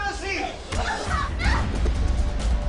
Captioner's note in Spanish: Golpes